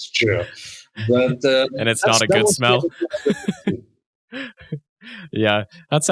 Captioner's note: chuckles